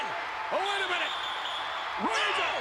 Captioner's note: referee whistling